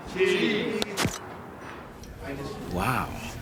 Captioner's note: camera snapping